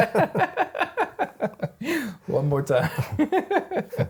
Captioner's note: both laughing